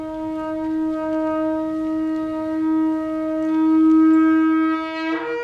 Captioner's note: shofar blowing